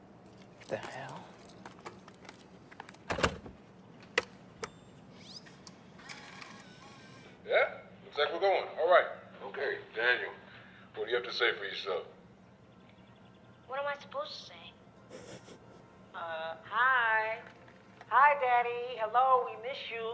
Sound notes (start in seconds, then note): 5.0 tape whirring; 15.0 chuckling